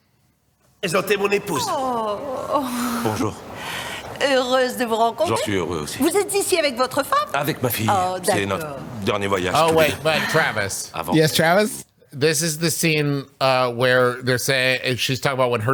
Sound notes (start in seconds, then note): 1.0 speaking in French